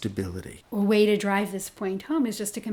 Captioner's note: voiceover